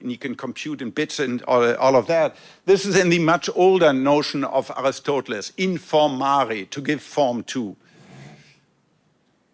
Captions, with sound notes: and you can compute in bits and all of that. This is in the much older notion of Aristotle, (speaks in foreign language) to give form to.